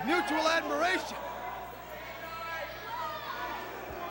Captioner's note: crowd chatter